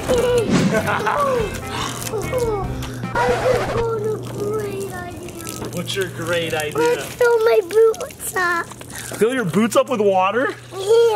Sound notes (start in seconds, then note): 0.0 laughs; 3.1 record scratching